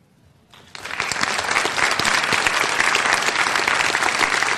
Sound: applause

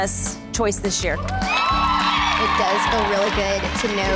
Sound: girls cheering

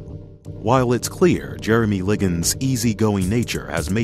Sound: voiceover

